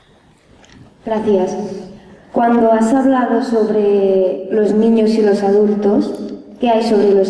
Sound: young voice

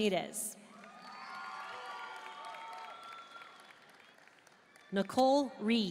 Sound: audience cheering and applauding

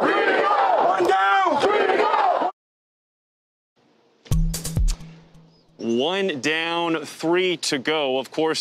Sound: crowd chanting

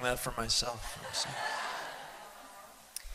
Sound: laughter

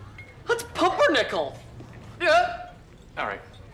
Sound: gasps

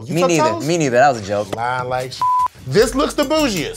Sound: beep

